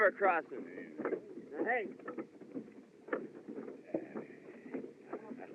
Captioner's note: speaking Native Language